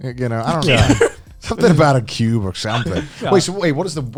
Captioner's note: laughs